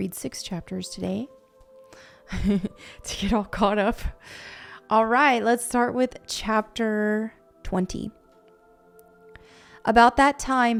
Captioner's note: laughs